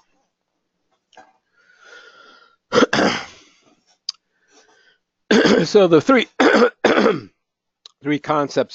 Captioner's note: cough